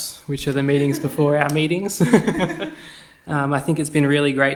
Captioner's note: laughs